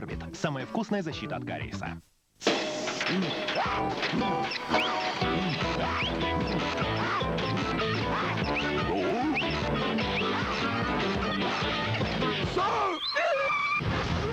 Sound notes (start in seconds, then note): 2.4 creak; 2.5 upbeat music